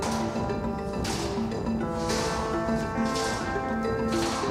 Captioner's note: all clapping